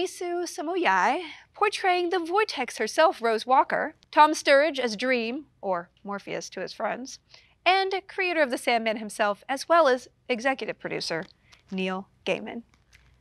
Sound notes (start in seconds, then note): none